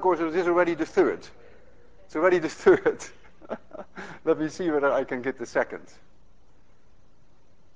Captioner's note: chuckling